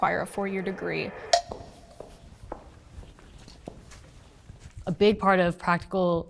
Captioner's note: feet stomping